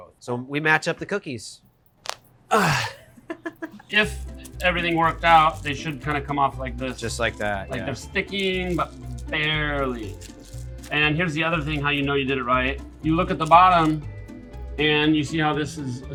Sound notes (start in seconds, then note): 1.9 knuckles crack; 2.5 laughs